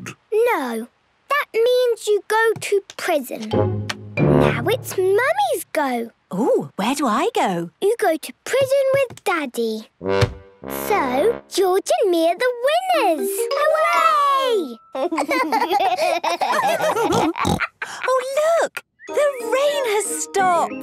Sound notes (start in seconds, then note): 15.0 giggling; 15.2 laughs, snorts